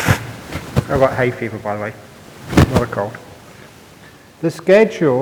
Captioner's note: sniffs